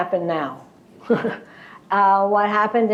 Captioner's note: laughter